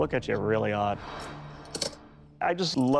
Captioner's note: claws clink